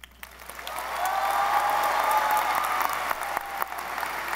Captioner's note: audience applauding